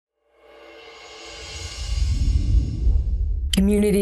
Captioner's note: air whooshing